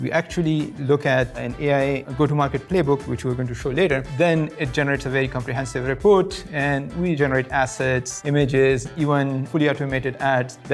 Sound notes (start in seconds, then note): none